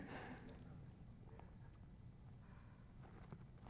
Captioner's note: chuckles